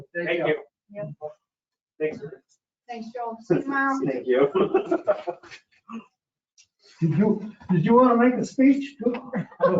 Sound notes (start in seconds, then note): 4.3 laughs